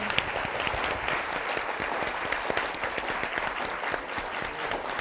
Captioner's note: audience applauding